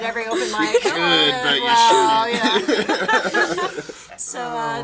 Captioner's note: all talking and laughing